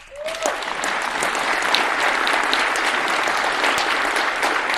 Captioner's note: attendees applauding